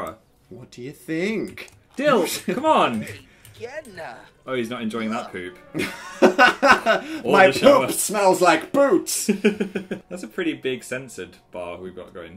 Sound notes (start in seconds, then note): 5.0 laughing; 9.3 giggling